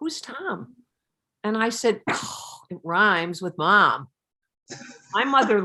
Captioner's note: scoffs